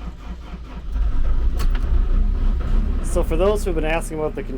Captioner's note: engine chugging; engine rumbling